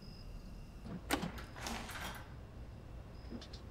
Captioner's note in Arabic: خطوات نزول الدرج